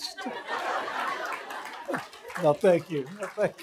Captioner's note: laughter